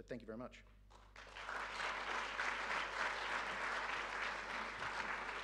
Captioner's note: audience applauding